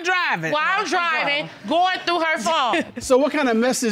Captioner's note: chuckles